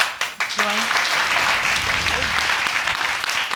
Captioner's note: audience applauding